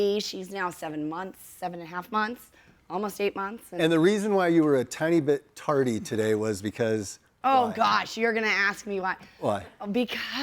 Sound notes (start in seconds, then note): none